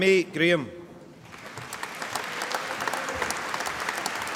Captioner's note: applause